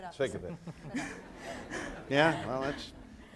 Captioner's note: speaking in foreign language; audience laughs